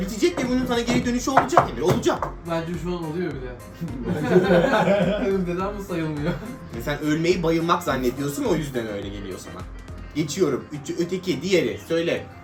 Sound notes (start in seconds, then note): 3.8 laughing